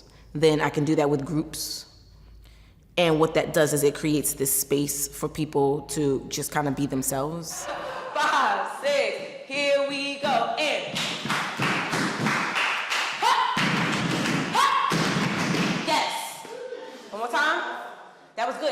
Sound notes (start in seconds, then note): 10.8 clapping and stomping